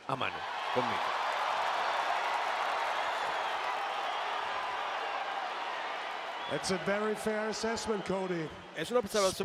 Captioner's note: applause